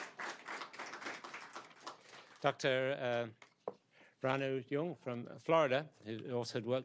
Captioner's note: applause